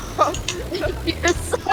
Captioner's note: community Dryer Machine Laughter